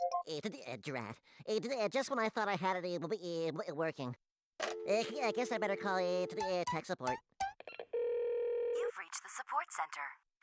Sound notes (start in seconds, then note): 1.7 stuttering